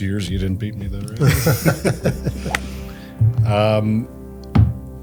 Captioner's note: group laughs